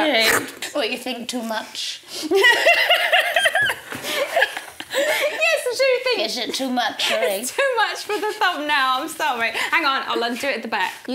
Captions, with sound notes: - Alright. What you think too much? (both laughing) - Yes I do think- - Is it too much, alright. - It's too much for the thumbnail, I'm sorry. Hang on, I'll undo it at the back.